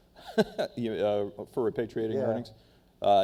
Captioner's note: laughs